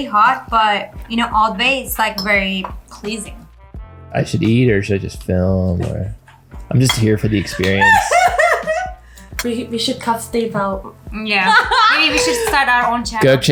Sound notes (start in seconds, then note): 7.1 laughing